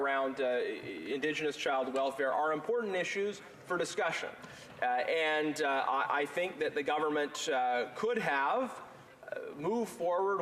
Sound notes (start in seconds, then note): none